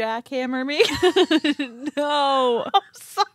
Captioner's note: laughing